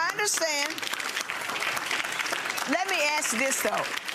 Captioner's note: audience applause